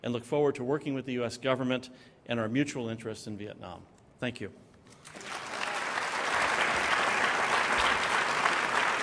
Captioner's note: applause